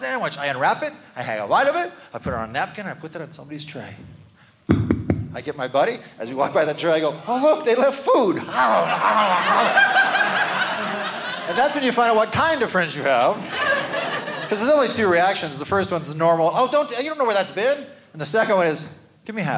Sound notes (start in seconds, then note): 8.4 audience laughing